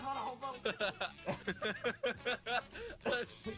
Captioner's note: laughing